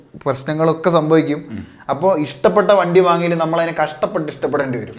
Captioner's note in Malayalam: തൊണ്ട ശരിയാക്കുന്നു